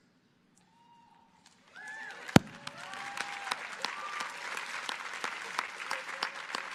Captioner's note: crowd cheering